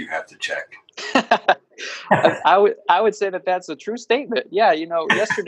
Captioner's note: laughs